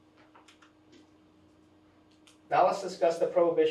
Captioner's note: pointer clicks